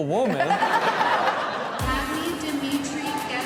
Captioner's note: Chanel and audience laughing